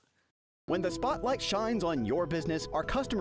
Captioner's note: voiceover